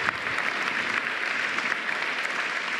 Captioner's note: applause